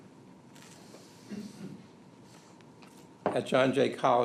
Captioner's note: coughs